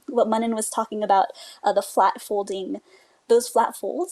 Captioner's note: none